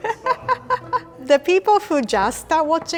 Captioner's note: laughs